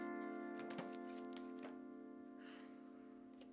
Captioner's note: photos rustling; Danielle sighs softly